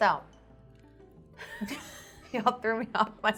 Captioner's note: laughing